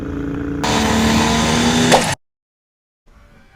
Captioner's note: sound of outboard motor; MOTOR quits silence